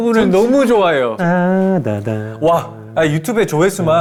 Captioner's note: jukebox poong